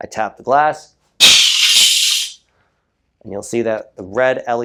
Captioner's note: crash